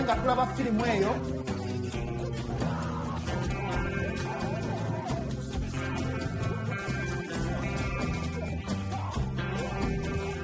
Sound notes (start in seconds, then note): 2.2 actors grunting and kicking